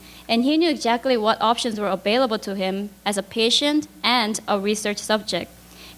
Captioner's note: none